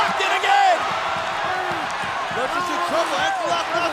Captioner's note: audience cheering and clapping